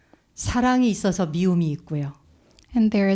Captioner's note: speaking in Korean